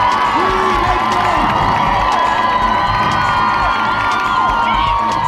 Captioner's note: audience cheering and applauding; cheering drown out